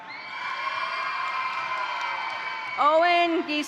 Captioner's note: crowd cheering; crowd applauding